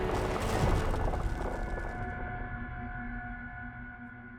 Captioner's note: earth rumbling